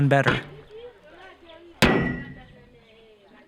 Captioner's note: clank